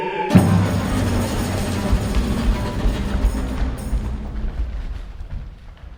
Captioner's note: explosion